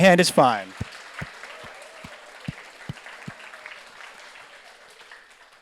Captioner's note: audience applauds